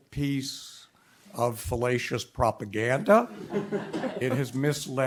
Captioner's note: audience laughs